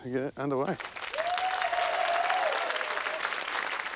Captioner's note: cheering, applause